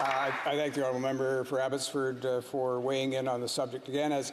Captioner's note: applause